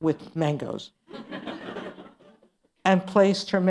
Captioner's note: laughter